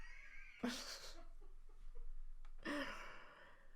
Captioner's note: chuckling